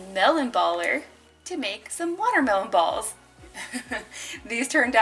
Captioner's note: laughs